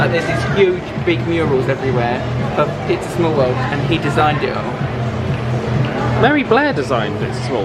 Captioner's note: none